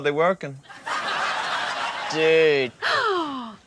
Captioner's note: laughter